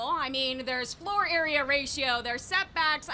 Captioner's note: none